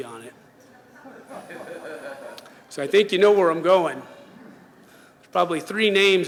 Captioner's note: laughs